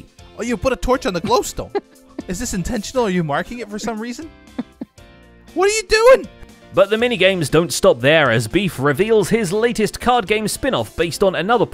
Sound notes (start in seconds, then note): 1.2 laughs; 4.4 still laughing